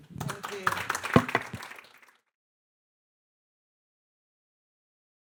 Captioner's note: audience applauding